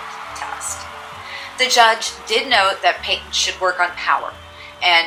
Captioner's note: crowd cheering